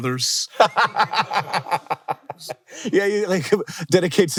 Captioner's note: everyone laughing